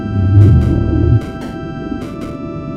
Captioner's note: more roaring